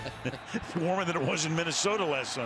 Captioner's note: laughter